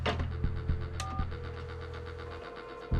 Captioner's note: line ringing